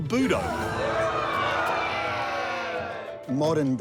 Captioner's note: shouting